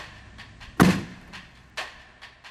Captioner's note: door kick